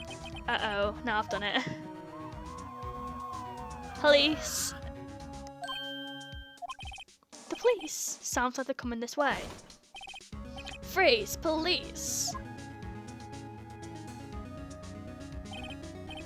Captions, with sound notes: Uh oh. Now I've done it [POLICE SIRENS] Police! The police. Sounds like they are coming this way Freeze! Police!